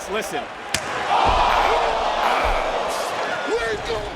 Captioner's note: audience cheering